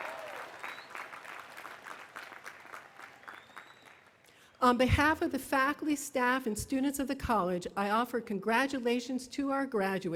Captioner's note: applause